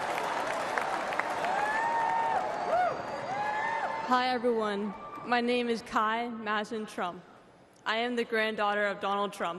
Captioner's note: applause